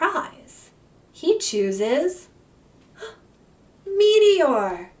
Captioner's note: gasps